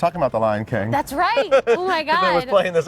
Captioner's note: laughing